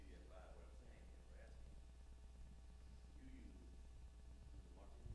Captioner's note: male audience member speaking